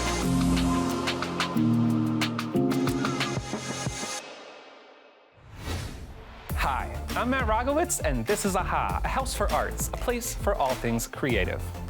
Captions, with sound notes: (bright music concludes) (screen whooshes) - Hi, I'm Matt Rogowicz, and this is AHA. A House for Arts, a place for all things creative.